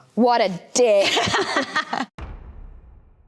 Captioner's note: laughing